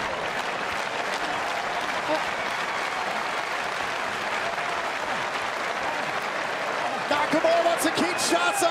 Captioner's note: crowd cheering